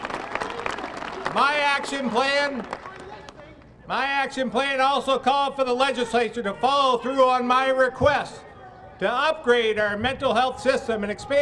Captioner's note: applause